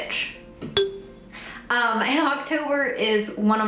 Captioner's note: bell ringing